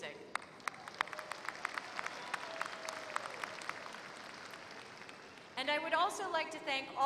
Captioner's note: applause